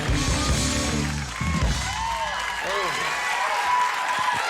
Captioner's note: crowd cheering